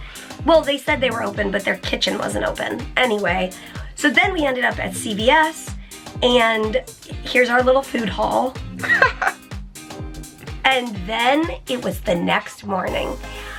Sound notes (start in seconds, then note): 8.8 chuckles